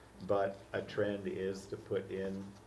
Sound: none

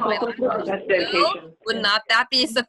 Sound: laughter

